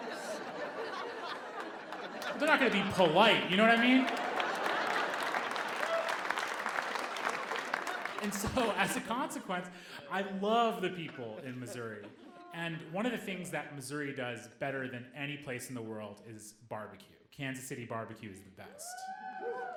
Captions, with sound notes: (audience laughing) But they're not going to be polite, you know what I mean? (audience applauding) And so, as a consequence, I love the people in Missouri. And one of the things that Missouri does better than any place in the world is barbecue. Kansas City barbecue is the best.